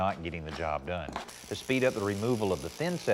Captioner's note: mason drilling